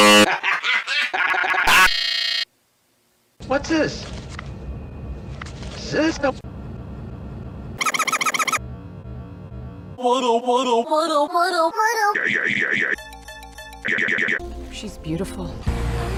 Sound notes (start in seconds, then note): 0.0 Cinema Snob's laugh glitches out; 7.7 sped-up stuttering